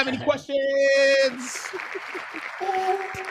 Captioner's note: applause